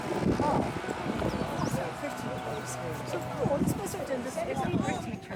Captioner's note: chatter, birdsong and a power tool in the distance; Chatter. No sign of Teletubbies though it sure looks like their land